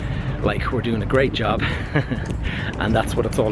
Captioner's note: giggles